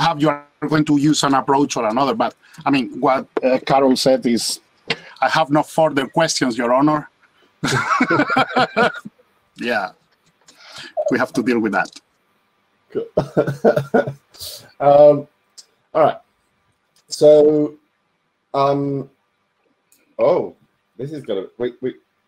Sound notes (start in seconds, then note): 7.6 panelist laughing; 13.0 laughs